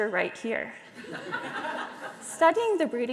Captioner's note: audience laughing